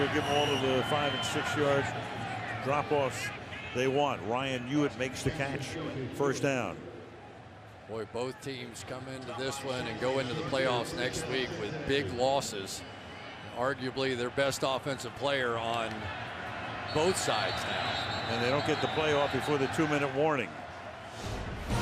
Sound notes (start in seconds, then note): 17.0 whistles